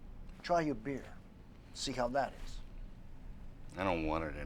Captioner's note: none